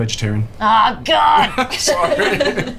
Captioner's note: laugh